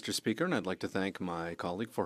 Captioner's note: speaking French